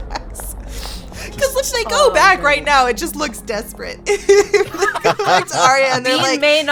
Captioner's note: laughs; laughs